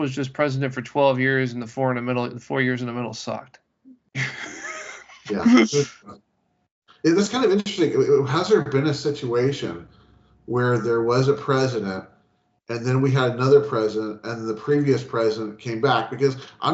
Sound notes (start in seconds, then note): 4.1 laughing